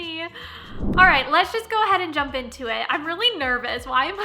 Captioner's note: whooshing